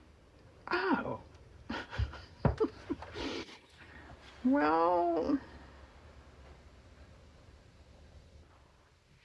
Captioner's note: laughs